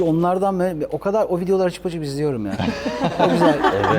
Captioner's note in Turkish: kahkaha